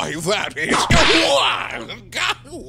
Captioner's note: whip crack!